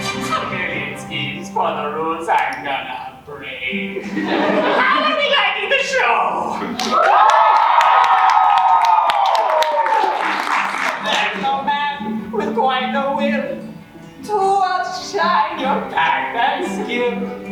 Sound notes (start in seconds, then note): 3.9 audience laughs; 6.7 audience cheers